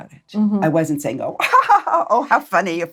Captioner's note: laughs